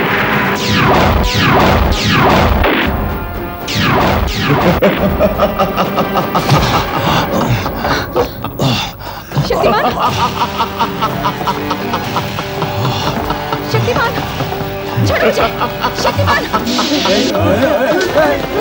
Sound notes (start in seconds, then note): 4.4 groans; 4.4 laughs; 10.2 laughs